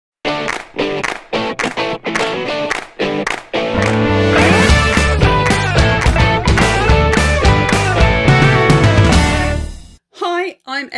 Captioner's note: claps